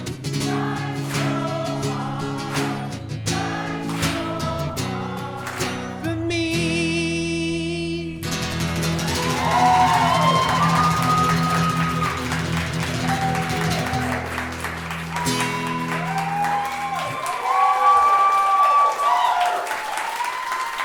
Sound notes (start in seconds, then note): 8.4 audience cheering; 8.4 guitar strumming